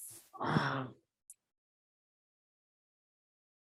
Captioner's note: sighing